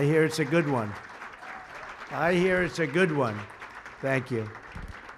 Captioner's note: applause